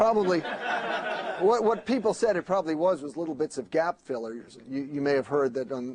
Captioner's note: laughter